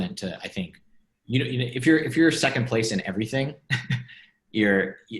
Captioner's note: laughs